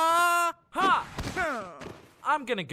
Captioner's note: grumbles